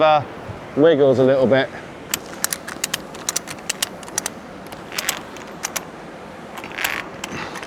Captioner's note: clicking